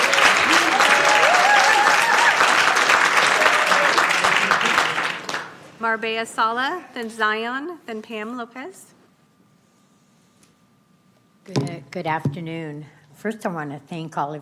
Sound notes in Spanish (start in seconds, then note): 0.0 Aplausos